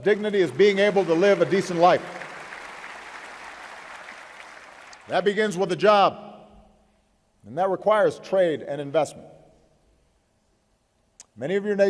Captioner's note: applause